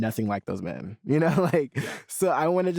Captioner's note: chuckles